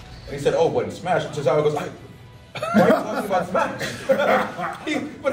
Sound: laugh

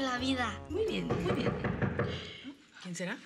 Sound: Toques en la puerta

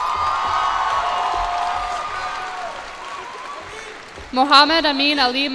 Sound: cheers and applause

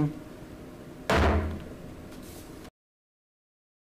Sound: gavel bangs

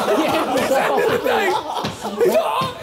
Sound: Sidemen laughing

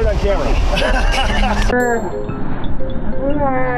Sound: laughing

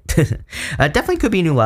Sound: giggling

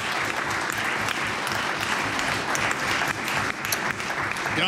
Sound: applause

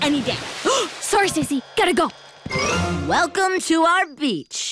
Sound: gasps

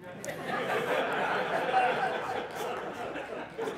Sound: laughter

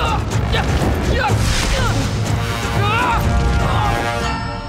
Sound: grunting

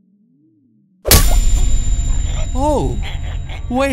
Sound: Gumball choking

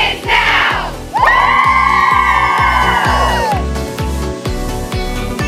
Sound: cheering

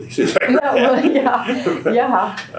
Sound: laughter

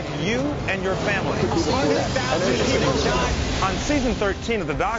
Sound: people murmuring

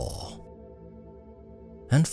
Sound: 1m 30s silence

